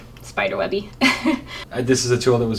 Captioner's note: laughing